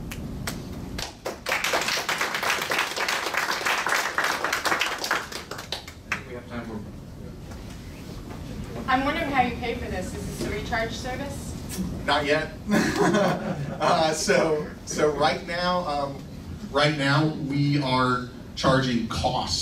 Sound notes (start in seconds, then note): 0.9 clapping; 12.7 laughs